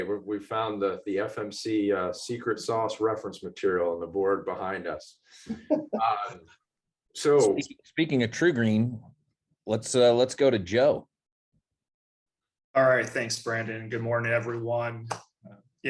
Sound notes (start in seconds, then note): 5.5 laugh